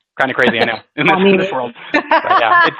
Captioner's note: laughing